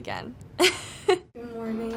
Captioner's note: laughs